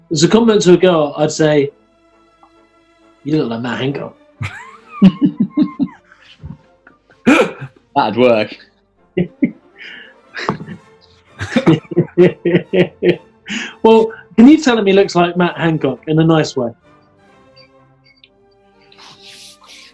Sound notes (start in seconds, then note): 4.4 giggling; 9.0 laughing and chuckling